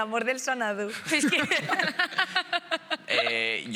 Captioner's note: laughing